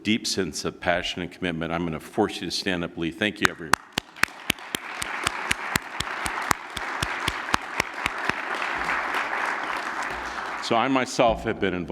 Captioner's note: applause